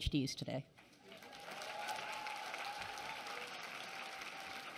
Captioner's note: applause